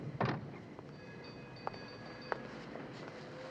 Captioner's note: phone ringing faintly